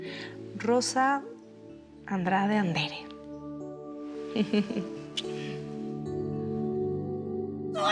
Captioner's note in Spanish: Ríe